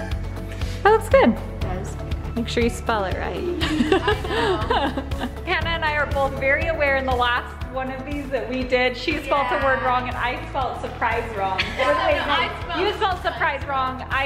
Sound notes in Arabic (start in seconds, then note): 3.6 أمي تضحك